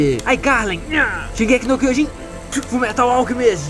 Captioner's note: spit